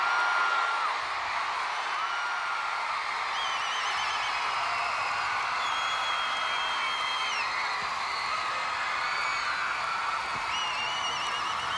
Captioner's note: audience cheers